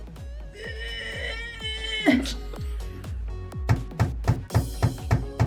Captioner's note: straining; tools thudding